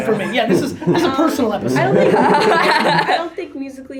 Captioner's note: girls laughing